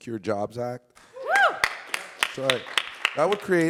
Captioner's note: audience clapping and cheering